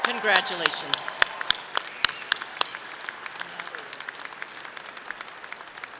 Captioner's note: audience clapping loudly